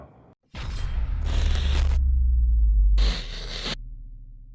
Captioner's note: crackling sounds